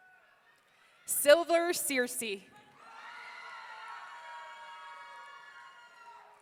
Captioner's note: audience cheering